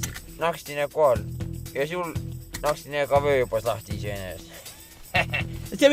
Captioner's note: snapped